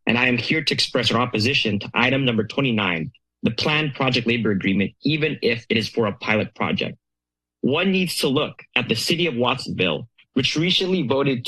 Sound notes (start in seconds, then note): none